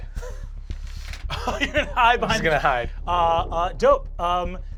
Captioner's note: laughs